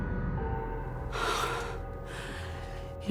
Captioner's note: sighs